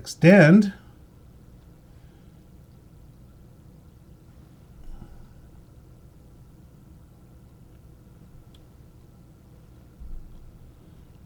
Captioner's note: silence